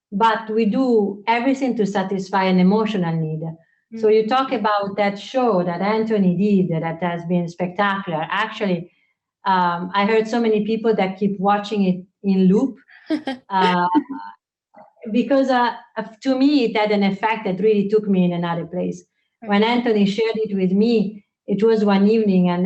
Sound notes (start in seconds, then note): 13.0 laughs